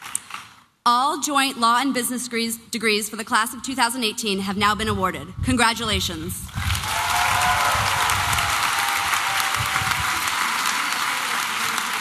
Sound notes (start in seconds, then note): 6.5 applause and cheering